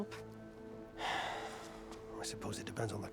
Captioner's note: sigh